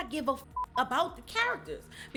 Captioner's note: beep